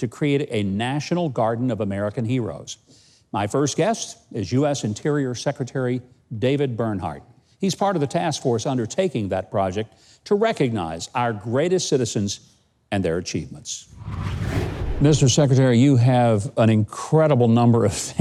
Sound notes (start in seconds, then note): 13.8 air whooshing